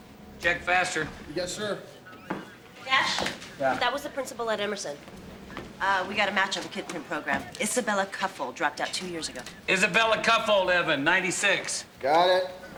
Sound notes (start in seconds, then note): none